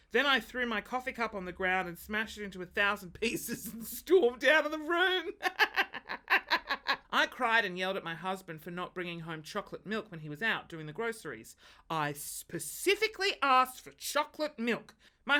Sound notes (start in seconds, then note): 5.3 laughs